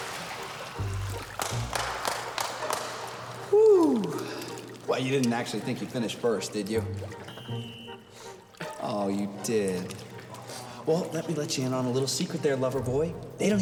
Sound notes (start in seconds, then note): 0.7 Billy clapping